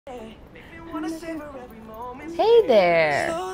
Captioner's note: humming along to music